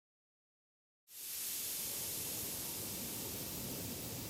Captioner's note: liquid hissing